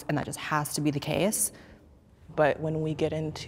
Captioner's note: none